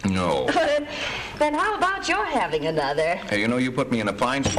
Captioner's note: laughs